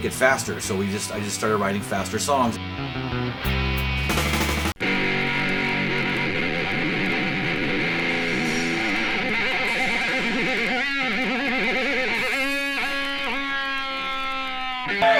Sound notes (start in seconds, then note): 2.7 punk rock music; 9.5 fans screaming